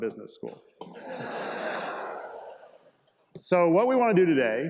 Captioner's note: students laugh